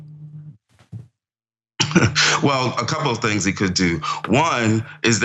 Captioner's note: laugh